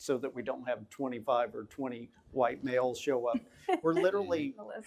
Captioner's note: laughing